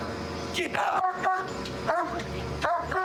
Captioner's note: barking